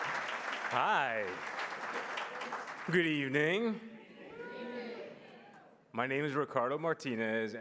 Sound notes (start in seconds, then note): 0.0 applause